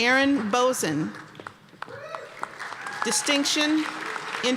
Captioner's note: applause; applause and cheers